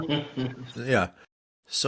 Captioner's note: laughing